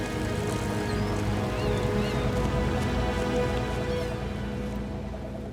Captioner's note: seagulls squawk